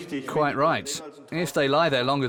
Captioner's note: in German